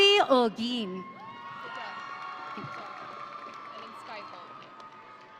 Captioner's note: audience cheering